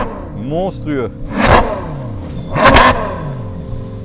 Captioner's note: engine roaring